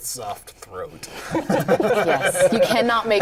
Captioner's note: laughter